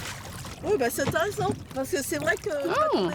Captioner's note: speaking French